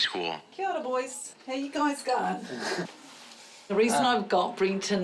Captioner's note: chuckles